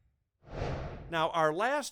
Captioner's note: whooshing